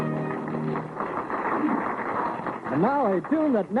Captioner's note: applause